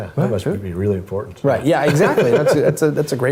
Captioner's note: laugh